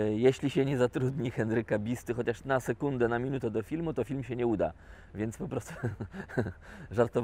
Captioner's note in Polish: śmiech